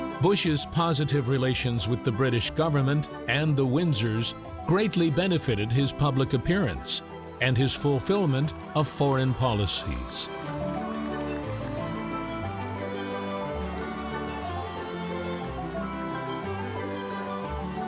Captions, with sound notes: Bush's positive relations with the British government and the Windsors greatly benefited his public appearance and his fulfillment of foreign policies. (audience clapping) (warm instrumental music)